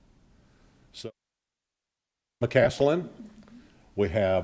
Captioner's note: audio glitches